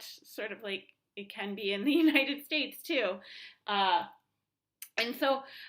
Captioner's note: laughter